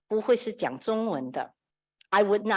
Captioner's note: speaker speaks in foreign language